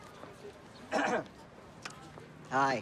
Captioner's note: clears throat